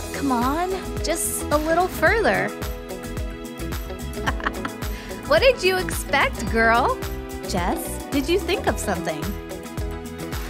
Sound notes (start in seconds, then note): 4.2 laugh